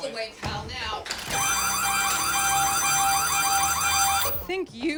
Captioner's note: alarm buzzing